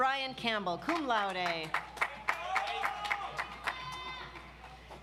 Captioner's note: audience applauds